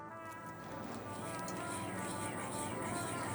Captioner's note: calming horn music; stirring